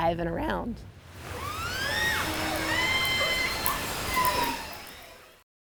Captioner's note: orcas chirping